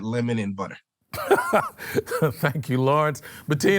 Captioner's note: laughs